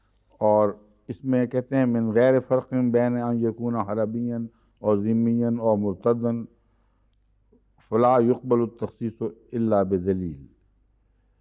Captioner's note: Arabic